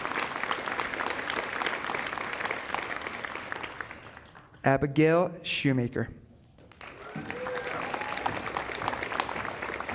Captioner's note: applause